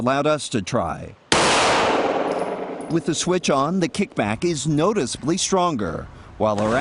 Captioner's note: rapid gunfire